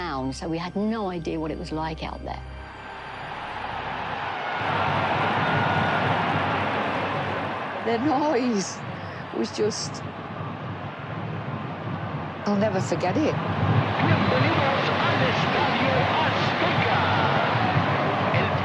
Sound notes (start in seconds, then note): 2.3 crowd cheers; 4.6 stamping, rumbling